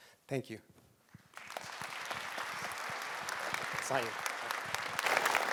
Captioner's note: audience applauding